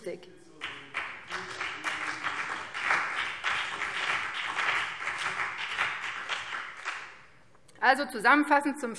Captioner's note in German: Beifall BÜNDNIS 90/DIE GRÜNEN und vereinzelt CDU - Zuruf AfD